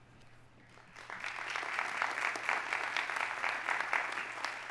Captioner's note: audience applauding